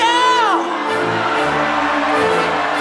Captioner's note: applause